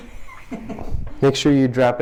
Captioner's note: laughing